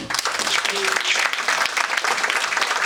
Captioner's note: audience applauding